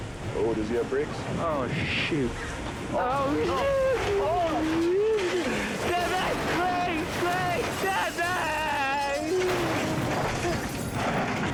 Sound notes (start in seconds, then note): 0.0 tense music; 3.4 screams indistinctly